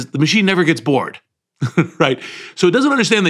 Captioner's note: laugh